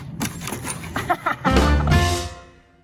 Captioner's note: laughs